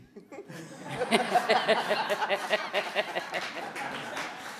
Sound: audience laughing

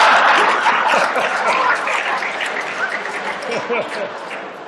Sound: applause

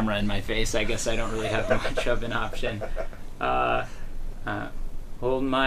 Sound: laughter

